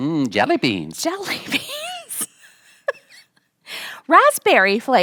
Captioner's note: laughing